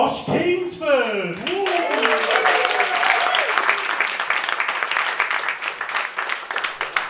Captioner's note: applause